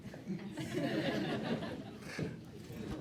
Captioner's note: laughter